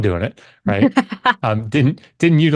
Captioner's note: laughs